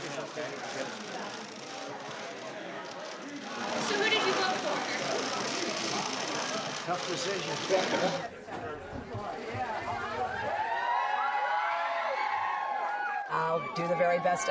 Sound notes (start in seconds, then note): 3.0 cheering